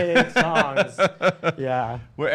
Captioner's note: laughs